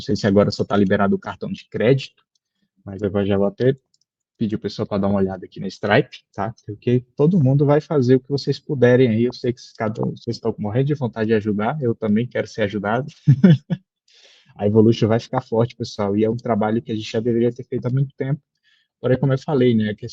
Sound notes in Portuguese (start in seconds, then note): 13.1 risada